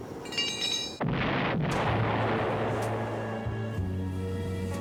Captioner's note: explosion